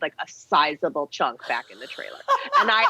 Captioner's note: laughing